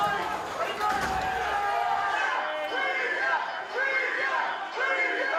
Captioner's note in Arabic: هتافات مثيري الشغب